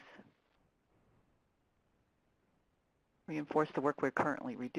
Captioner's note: pause